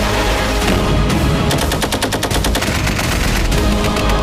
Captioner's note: explosion; machine gun firing